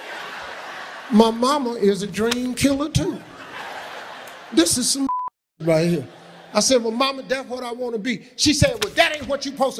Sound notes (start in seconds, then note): 0.0 audience laughing; 5.0 beep